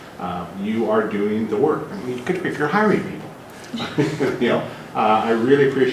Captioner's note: laugh